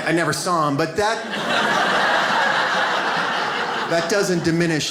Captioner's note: audience laughs